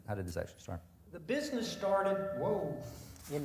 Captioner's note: mic feedback